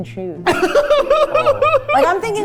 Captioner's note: laughing